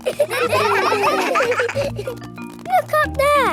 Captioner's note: children laughing